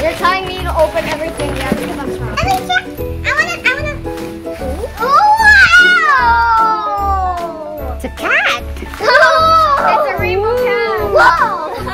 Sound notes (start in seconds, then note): 5.7 cheerful yelling; 11.0 laughing